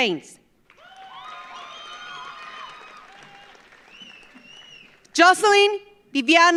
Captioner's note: audience applauds; audience cheers